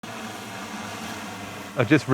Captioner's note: drone flying